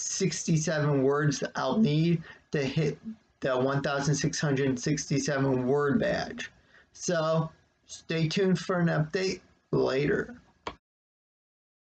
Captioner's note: click